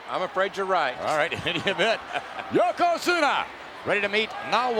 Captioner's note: laugh